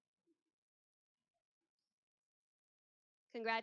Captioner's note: mic goes out